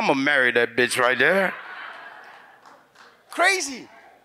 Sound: audience laughs

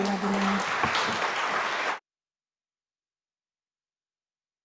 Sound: audience applauding

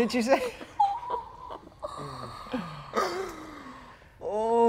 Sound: players chuckling awkwardly

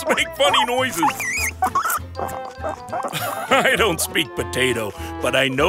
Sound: squeaking

